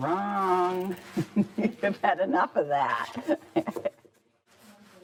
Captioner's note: laughs